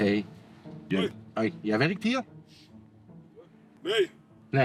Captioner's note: Dutch spoken audio